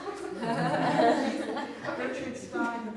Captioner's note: audience laughs